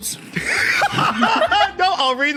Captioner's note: laughs; laughs uproariously